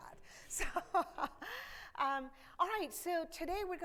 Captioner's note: chuckles